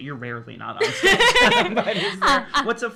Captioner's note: laughs